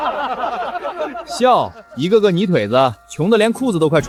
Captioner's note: laughs